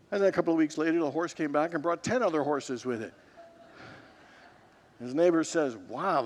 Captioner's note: congregants laugh